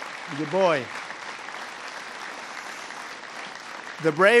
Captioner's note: applause